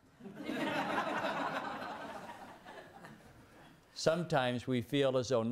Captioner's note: laughter